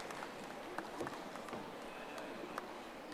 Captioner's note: audience applauding